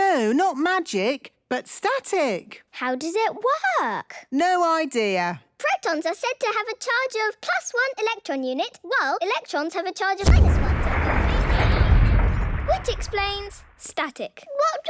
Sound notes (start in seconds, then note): 10.2 distant explosion